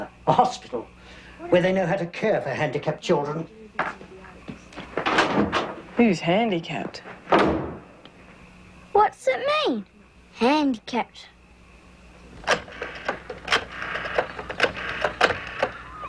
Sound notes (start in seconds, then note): 7.3 door slams; 12.4 rotary phone dialing